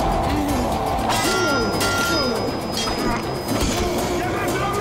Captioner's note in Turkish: Bağırma sesleri; Kılıç sesleri